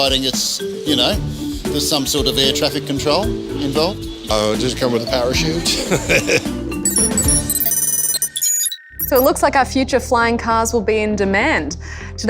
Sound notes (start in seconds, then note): 5.6 laughs; 6.8 loud electronic beeping